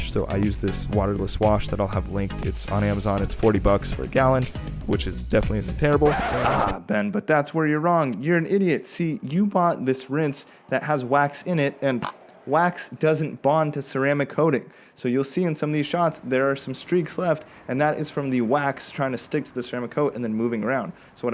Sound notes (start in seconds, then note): 6.0 screeching sound; 12.0 pop